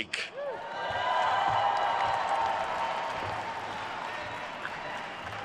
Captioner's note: attendees cheering and applauding